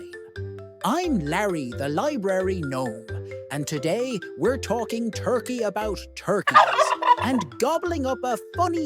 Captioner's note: turkey gobbles